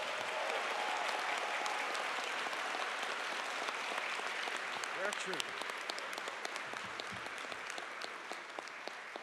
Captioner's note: applause and cheers